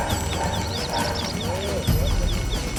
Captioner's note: hunters chattering; soft music